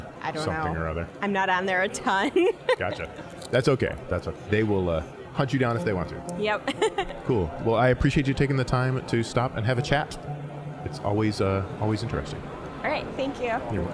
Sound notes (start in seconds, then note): 2.3 laughing; 6.6 laughing